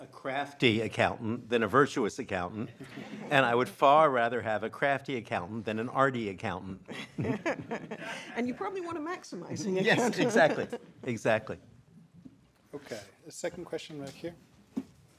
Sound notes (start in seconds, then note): 2.8 audience laughing; 6.9 people laughing